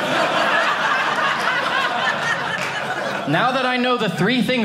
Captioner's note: audience laughing